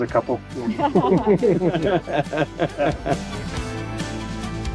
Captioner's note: everyone laughing; bright music